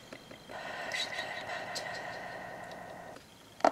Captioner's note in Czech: Zvuk šeptání